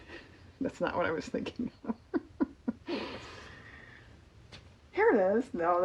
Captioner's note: laughs